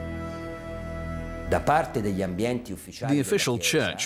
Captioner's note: man speaking Italian